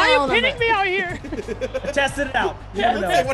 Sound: laugh

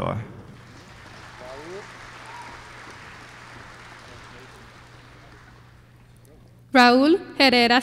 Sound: applause

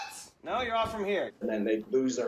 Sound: pat

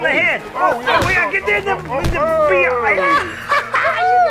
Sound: grunting, yelling

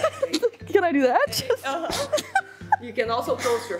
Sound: chuckles; chuckles

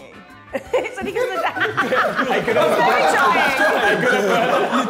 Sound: Sidemen laughing

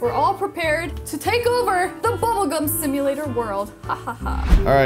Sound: laughs

